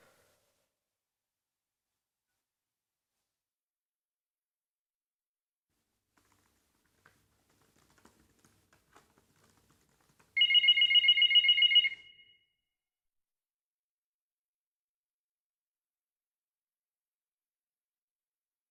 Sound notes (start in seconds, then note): 0.0 silence; 10.3 phone ringing; 14.5 silence